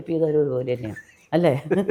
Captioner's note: laughs